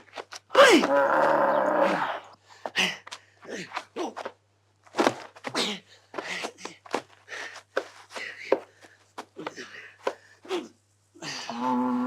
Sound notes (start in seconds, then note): 6.0 huffing-puffing